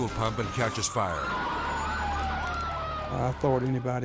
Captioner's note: sirens wailing